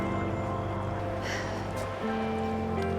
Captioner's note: Helen sighs